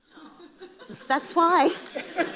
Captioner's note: audience laughs